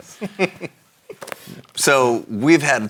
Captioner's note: laughs